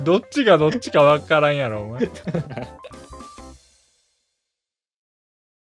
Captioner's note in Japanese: 笑い